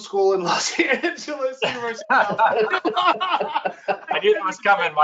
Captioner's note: laughter